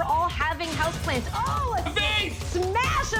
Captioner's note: glass shattering